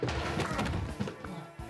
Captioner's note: grunts